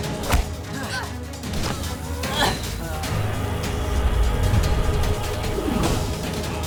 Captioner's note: dramatic orchestral music; grunting